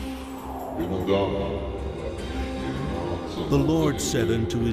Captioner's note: deep male voice speaking foreign language